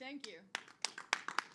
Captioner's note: applause